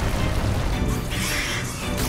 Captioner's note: screech